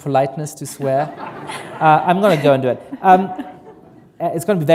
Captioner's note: laughter